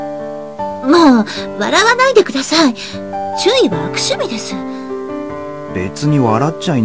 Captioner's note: rain